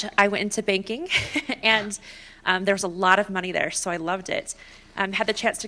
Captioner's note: laughter